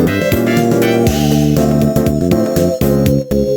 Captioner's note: woosh